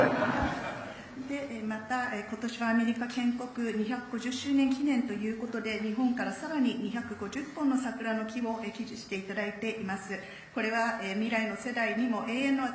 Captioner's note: speaking Japanese